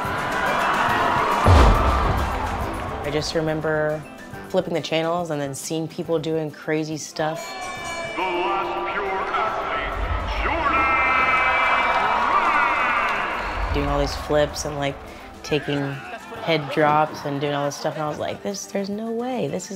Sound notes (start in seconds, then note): 0.0 crowd cheers; 7.4 bell rings